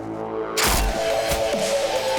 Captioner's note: gunshot